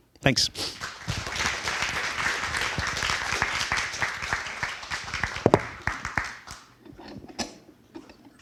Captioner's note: applause